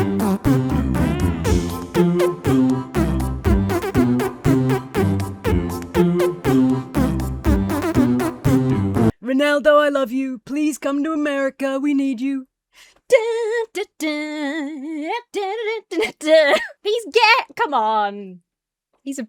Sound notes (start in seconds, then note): 13.1 hums "YMCA"